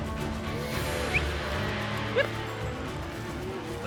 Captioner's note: whistling